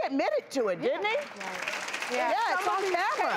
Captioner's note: applauses